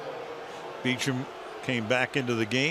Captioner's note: booing